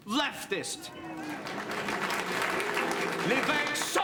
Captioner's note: audience applauds